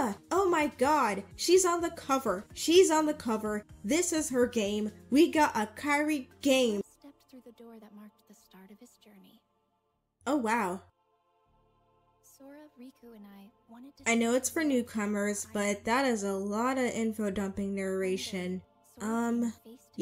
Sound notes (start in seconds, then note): 6.7 Kairi’s narration plays quietly in the background